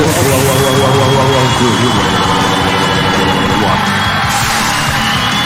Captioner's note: audience cheering